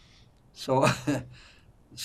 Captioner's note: laughing